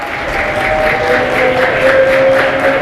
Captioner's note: applause